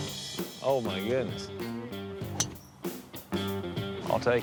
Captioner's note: crack of the club